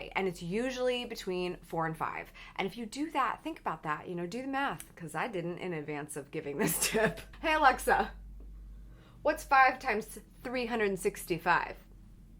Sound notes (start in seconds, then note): 7.0 laughs